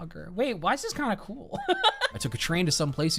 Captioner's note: laughs